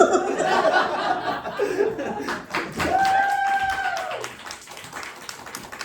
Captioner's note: laughs; laughter, applause, cheers